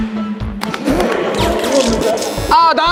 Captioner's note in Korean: Инээдээ барьж чадахгүйнээ